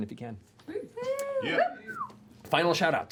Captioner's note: cheering